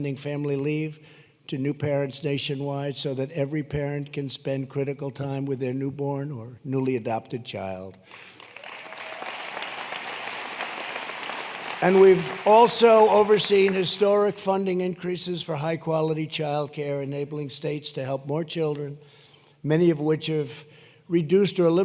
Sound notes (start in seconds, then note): 8.0 applause